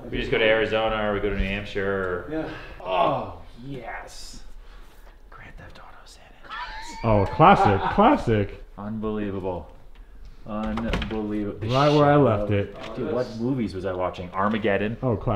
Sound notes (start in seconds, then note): 6.5 laughing